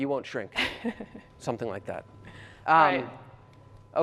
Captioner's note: laughter